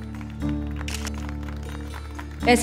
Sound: camera clicks

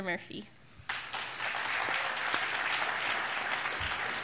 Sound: applause

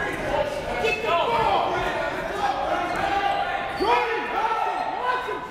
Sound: coaches barking commands

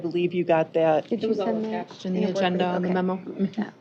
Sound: overlapping chatter

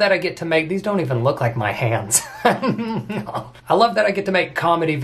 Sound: laughs

